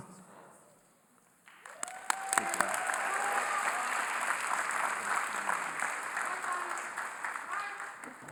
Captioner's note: cheering & Applause